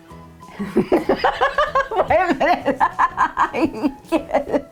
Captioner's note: laughing